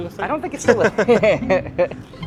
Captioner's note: laughs